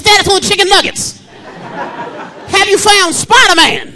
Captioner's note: audience laughing